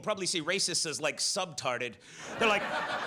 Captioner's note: audience laughs